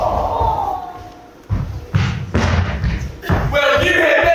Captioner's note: feet stomping angrily